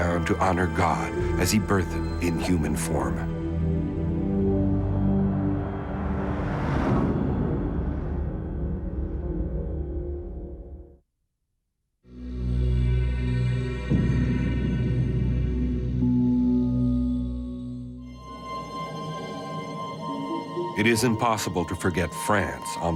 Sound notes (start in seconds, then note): 5.4 logo whooshes; 12.4 slow music